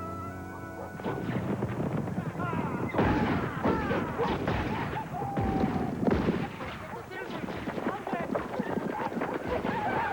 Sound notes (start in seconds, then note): 0.2 hooves clopping; 2.8 gunfire